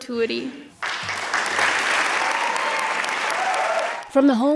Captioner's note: attendees clapping